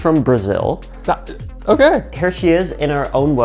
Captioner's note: stutters